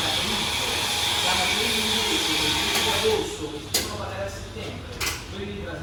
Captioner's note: machines at work